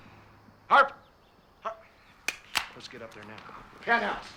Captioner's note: phone clicking